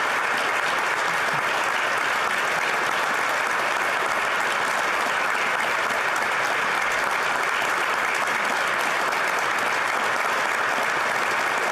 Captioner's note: applause